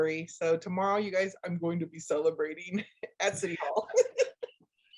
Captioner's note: laughs